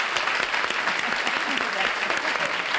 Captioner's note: applause